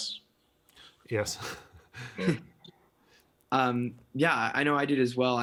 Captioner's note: laughing